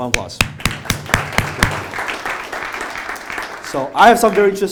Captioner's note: applause